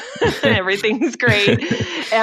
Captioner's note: laughs